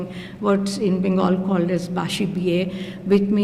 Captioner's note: non-english speech